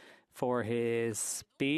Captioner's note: speaking French